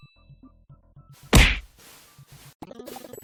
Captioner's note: bang